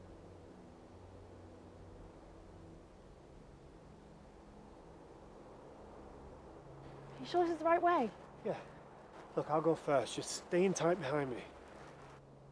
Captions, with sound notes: (wind whirls) - Are you sure this is the right way? - Yeah, look I'll go first, just stay in tight behind me.